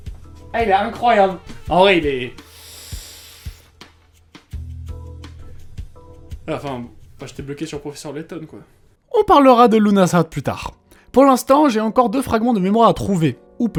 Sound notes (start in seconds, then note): 2.4 frustrated breath